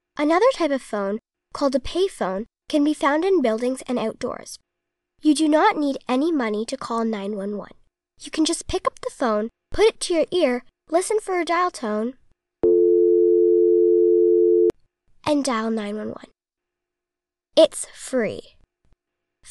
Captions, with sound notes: Another type of phone, called a payphone, can be found in buildings and outdoors. You do not need any money to call 9-1-1. You can just pick up the phone, put it to your ear, listen for a dial tone, [dial tone plays] and dial 9-1-1. It’s FREE.